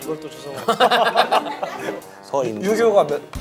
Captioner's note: laughing